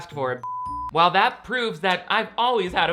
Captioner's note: beep